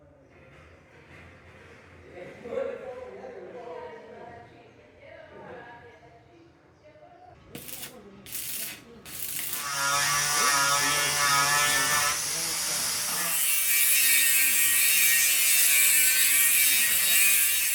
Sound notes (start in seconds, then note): 2.1 background chatter; 7.5 welding sparks; 9.6 buzz saw